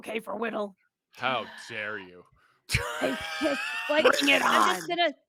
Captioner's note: laughs